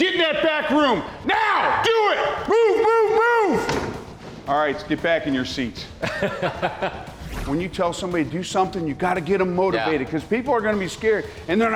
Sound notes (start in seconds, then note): 6.0 laughs